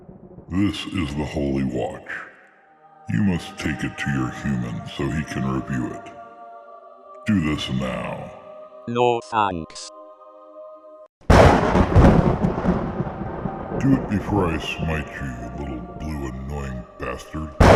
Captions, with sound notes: THIS IS THE HOLY WATCH. YOU MUST TAKE IT TO YOUR HUMAN, SO HE CAN REVEIW IT! DO THIS NOW! [THUNDERCLAP] DO IT BEFORE I SMITE YOU, YOU LITTLE BLUE ANNOYING BASTARD!